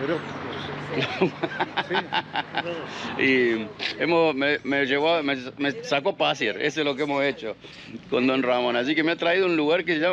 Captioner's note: laughs